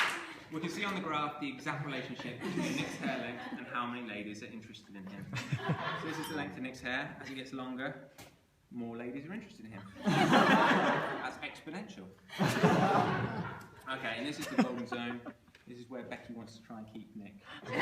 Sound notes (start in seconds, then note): 9.9 laughter